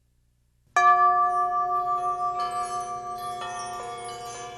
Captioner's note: chimes ringing